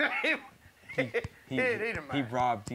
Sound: laughs

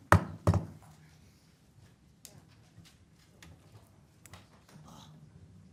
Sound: gavel pounds twice; people quietly conversing

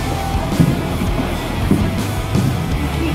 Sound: laugh

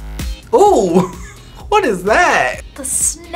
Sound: upbeat music; laughs

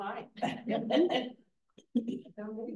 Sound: laughter

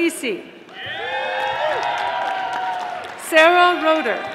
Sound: audience applauding

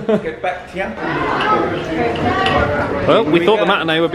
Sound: guests chat loudly

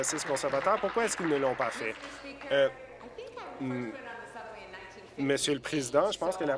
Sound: applause

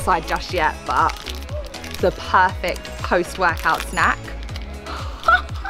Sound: laughs

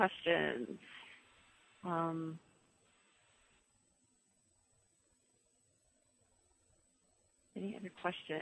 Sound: pause

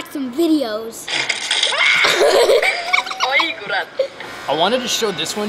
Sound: kids screaming and giggling on video

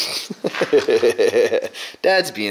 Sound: laughs

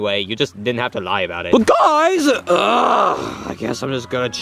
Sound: grunts

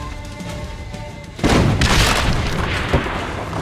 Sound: explosions

